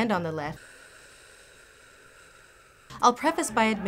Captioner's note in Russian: тяжкий вздох